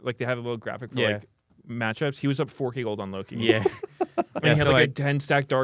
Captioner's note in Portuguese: risos